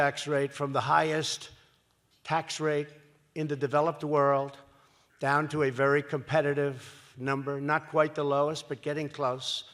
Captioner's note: none